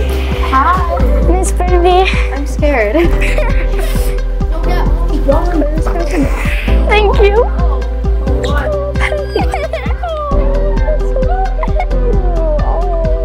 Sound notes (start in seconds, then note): 4.5 students chattering; 8.2 student crying; 8.3 crying